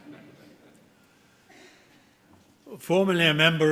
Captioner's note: laughter